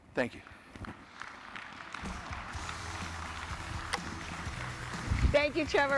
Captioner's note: audience applauding